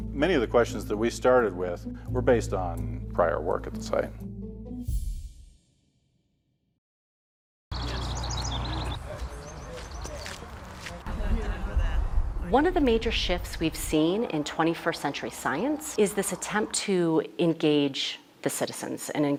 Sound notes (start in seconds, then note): 7.8 voices murmuring; 7.8 footsteps crunching